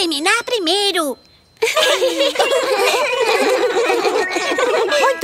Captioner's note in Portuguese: Risos